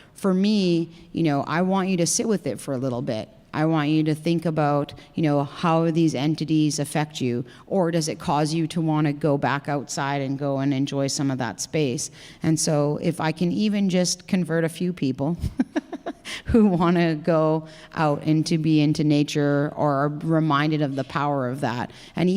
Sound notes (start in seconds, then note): 15.6 laughs